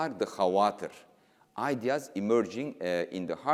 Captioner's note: speaking in foreign language